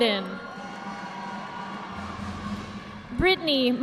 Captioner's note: audience applauding